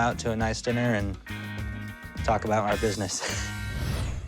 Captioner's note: chuckles